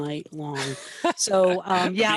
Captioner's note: laughs